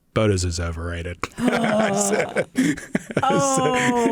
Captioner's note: laughter